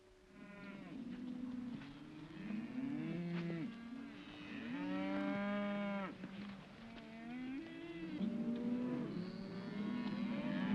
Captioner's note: cattle moo